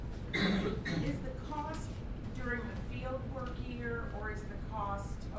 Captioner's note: voiceover